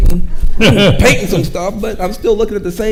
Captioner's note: chuckles